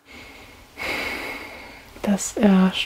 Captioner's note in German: Seufzen